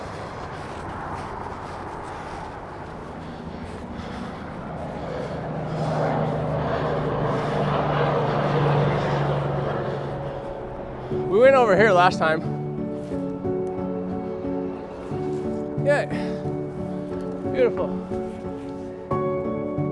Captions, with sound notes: (boat motor) - We went over here last time. Yeah, beautiful.